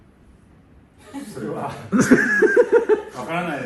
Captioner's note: laughs